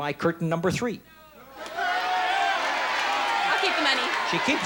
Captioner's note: audience yells